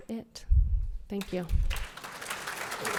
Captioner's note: applause